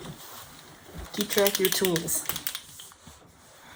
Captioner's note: shaking pen